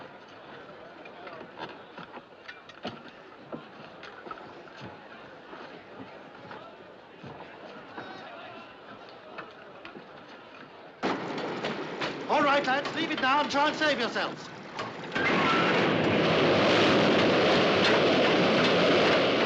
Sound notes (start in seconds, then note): 14.8 cranking, Whooshing